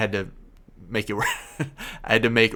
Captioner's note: laughs